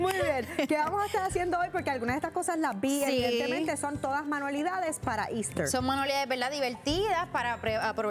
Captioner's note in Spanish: risas